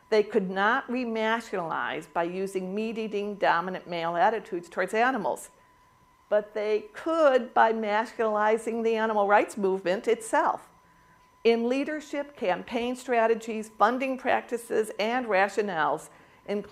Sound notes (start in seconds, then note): none